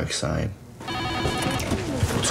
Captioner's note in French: Téléphone